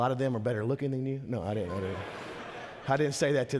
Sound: congregation laughing

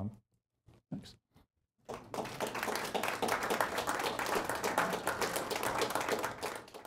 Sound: applauding

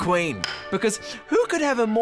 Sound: gavel taps

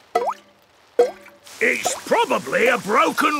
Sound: water dripping

